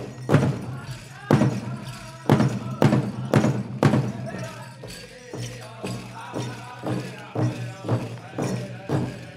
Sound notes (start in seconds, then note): 0.0 regalia ornaments jingling; 5.5 drum beating gently